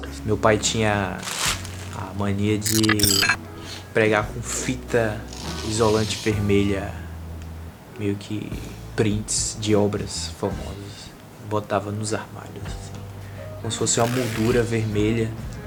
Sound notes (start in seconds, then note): 2.6 electronic noise; 5.3 pulling tape; 13.9 pulling tape